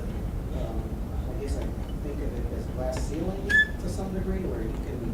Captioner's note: voiceover